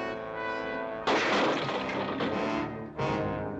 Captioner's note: dramatic music; crash